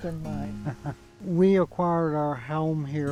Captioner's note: chuckling